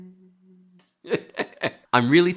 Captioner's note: laughs